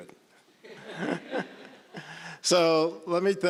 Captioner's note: all chuckling